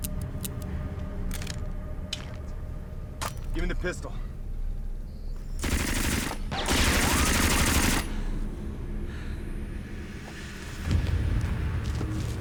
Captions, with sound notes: (gun clicking) - Damn it. Gimme the pistol. (machine gun firing)